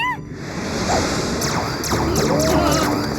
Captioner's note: shouting